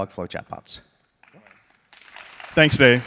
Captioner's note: applause